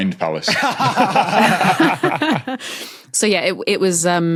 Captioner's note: group laughing